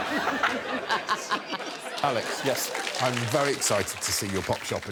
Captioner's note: laughter